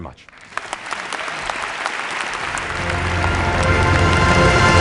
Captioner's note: applause